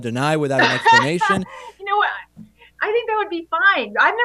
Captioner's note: laughs